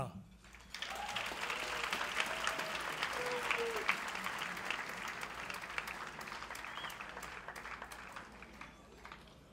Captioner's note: clapping